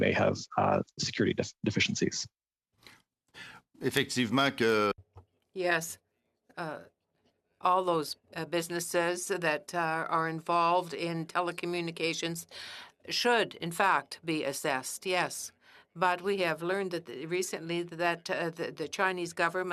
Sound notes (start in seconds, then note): 9.1 speaking in French